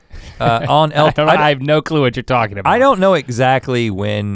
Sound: laughs

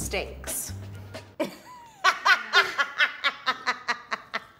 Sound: laughing

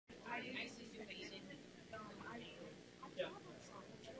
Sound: faint chatter

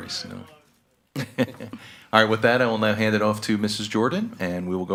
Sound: laughs

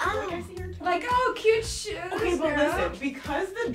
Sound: sarcastically

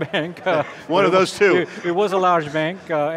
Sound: laughs

